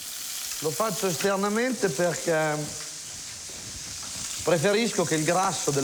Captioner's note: speaks in foreign language